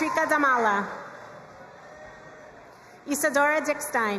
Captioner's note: crowd cheering and applauding